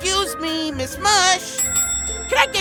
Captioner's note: ding, ding